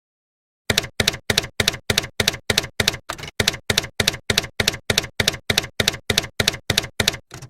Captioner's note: typewriter keys clacking